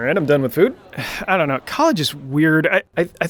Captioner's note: sighs